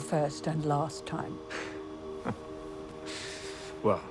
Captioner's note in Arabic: جيم يضحك